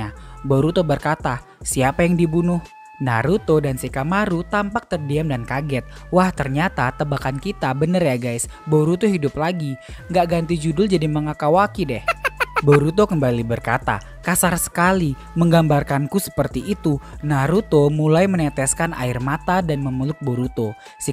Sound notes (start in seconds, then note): 12.0 laughs